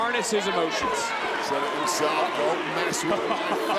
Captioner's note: laugh